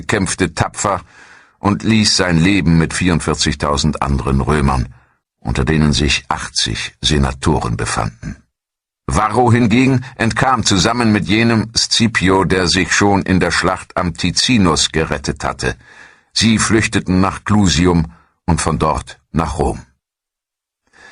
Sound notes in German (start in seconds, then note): 8.2 räuspern